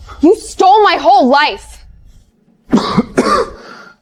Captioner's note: coughing